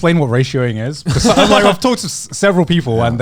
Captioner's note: all laughing